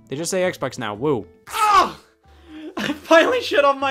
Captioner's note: yelling